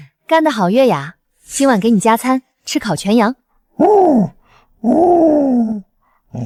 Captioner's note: sobbing